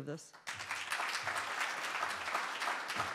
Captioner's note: applause